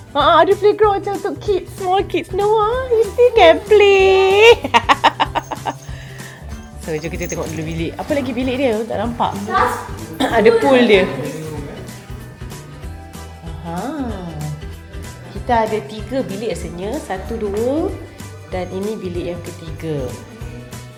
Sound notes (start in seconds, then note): 5.9 laugh; 9.6 speaking German